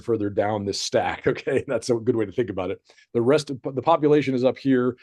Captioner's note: chuckles